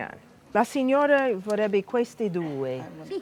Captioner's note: speaking italian